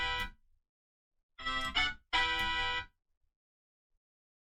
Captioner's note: phone ring